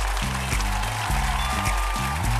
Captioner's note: audience applauding